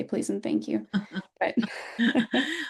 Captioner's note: laughter